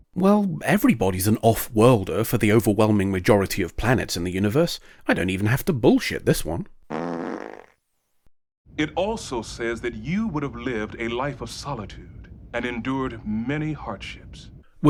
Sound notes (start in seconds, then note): 6.9 fart noise